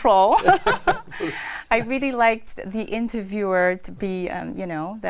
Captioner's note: laugh